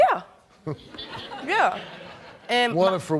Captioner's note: laughing